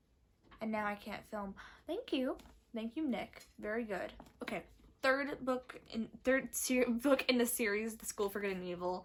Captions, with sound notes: And now I can't film. *gasp* Thank you! Thank you, Nick, very good. Third book- *stutters* Third book in the series The School for Good and Evil,